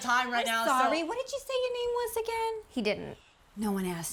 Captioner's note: none